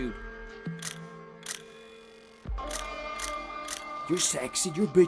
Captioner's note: shutter clicking